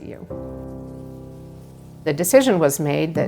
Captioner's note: wind bristling tree leaves